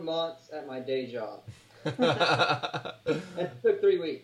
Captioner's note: laughing